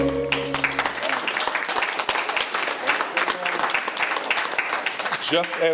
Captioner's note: all applauding